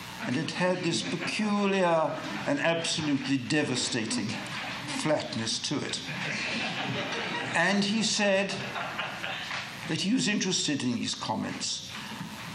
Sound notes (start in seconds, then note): 6.0 laughter